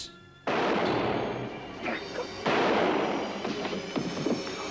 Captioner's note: gun shots